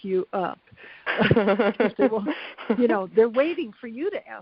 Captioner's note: laughs